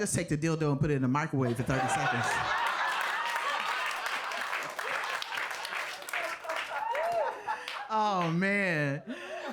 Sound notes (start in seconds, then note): 1.5 audience laughing; 1.7 audience applauding